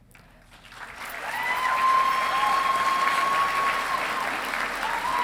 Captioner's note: audience applauding and cheering